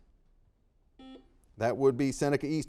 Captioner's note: buzzer dings